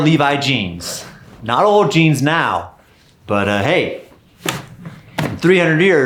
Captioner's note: jeans thudding